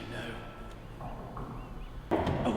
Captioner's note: knocking